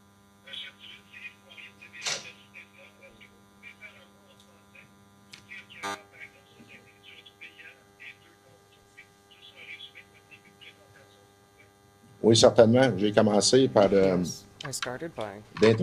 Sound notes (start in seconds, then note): 4.2 speaking FRENCH